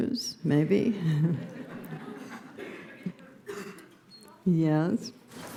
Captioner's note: laughter; laughing